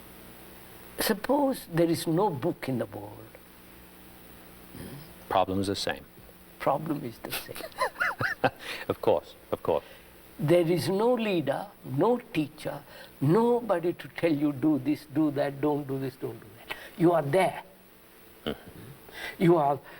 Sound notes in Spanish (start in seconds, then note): 7.4 Risas